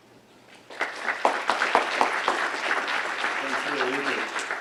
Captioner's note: audience applauds